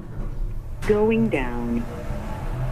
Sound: elevator Voice

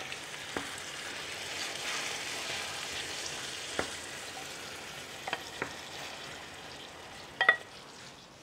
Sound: stirring sound

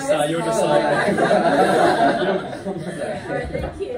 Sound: laughter

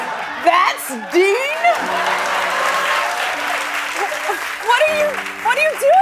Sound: applause

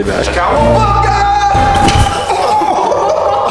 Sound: cheering

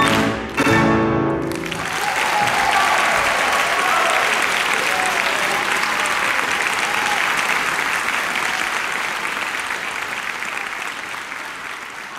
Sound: applause

